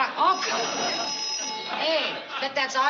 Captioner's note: phone rings